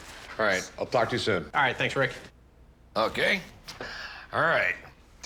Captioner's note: none